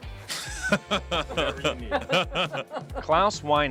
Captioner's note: laughs